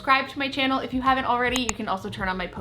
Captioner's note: mouse click